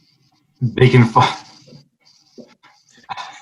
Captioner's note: laughs